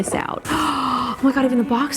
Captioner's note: gasps